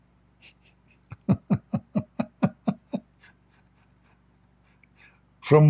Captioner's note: Ketawa